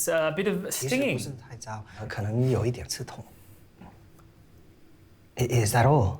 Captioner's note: Calvin translating in Mandarin